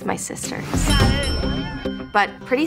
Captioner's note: bells dinging